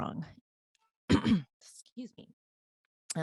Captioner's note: clears throat